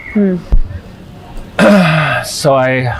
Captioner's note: throat-sound